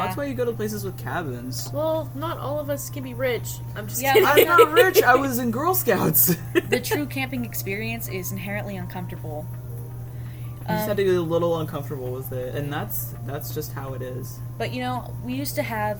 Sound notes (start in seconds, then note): 5.9 laughs